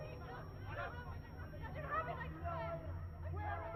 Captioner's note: faint shouting in distance